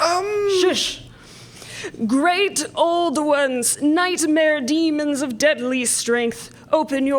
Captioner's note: spooky voice